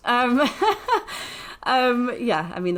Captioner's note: laughs